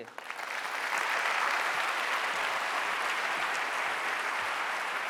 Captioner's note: audience applauding